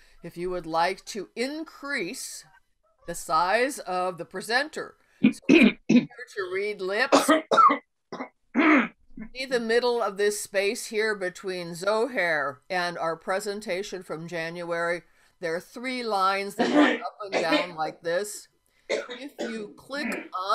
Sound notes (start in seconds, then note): 7.1 coughing